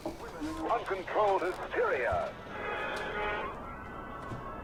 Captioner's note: radio Voice